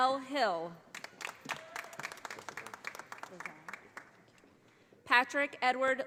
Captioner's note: audience applauding